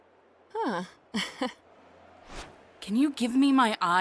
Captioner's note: laughs softly